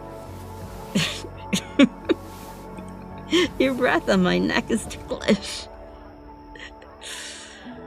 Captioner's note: giggles